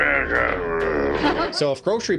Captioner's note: growling